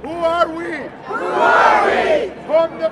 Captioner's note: crowd